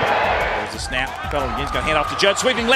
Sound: voiceover

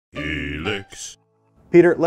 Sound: deep Voice

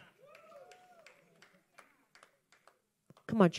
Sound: congregation cheering and clapping

